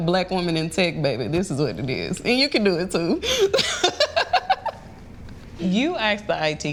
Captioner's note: laughs